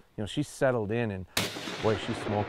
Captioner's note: gun exploding